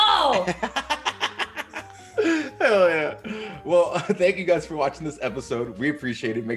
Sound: laugh

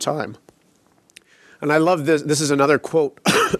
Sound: coughs

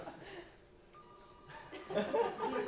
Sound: students laughing; telephone ringing; students laughing

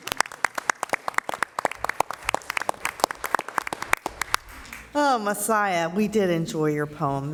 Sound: applauding

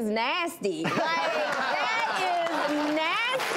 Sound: laughing and clapping

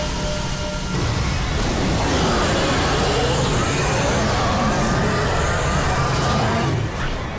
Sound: roaring

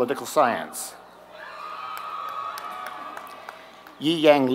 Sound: applause

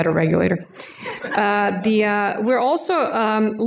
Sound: laughter

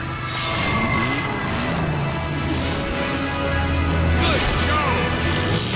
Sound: engine revs

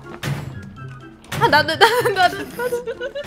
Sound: bang

